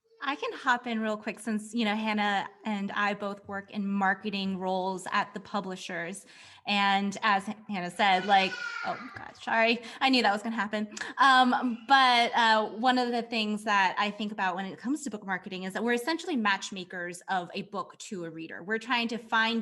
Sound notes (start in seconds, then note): 8.0 baby cries